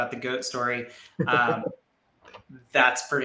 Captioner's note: laughs